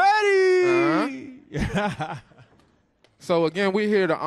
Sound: laughs

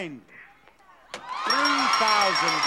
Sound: audience hollering and cheering

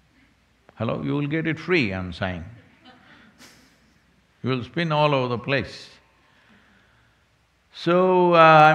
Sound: few laugh

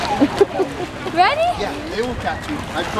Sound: laughs

